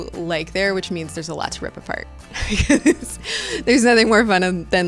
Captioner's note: laughing